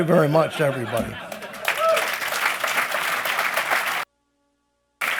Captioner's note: applause